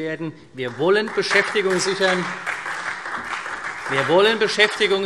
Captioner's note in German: Beifall CDU und vereinzelt BÜNDNIS 90/DIE GRÜNEN